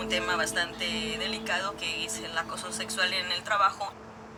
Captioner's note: speaking Spanish on radio